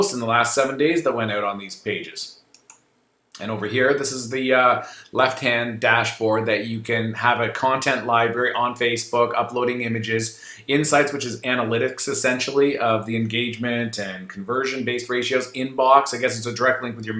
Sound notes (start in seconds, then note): 2.5 mouse clicking